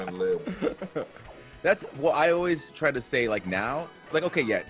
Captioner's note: laugh